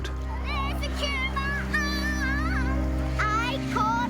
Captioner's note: children talking playfully